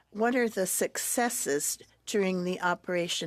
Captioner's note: speaking French